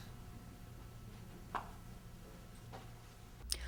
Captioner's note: footsteps